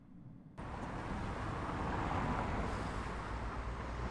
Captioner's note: traffic noise